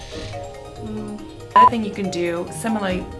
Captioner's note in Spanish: bip